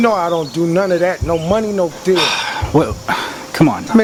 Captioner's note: Mr. X sighs